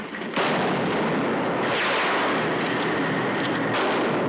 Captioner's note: gunshots